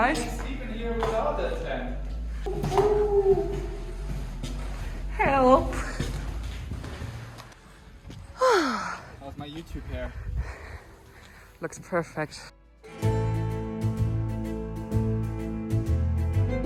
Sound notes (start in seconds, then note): 2.4 cooing; 8.3 sighing; 12.8 lively music